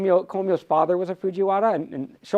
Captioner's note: none